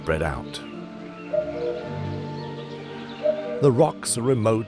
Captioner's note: cuckoo calls